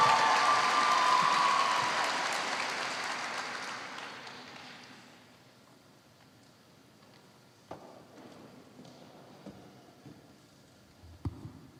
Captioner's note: cheers and applause